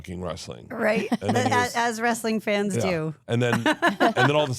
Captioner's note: laughing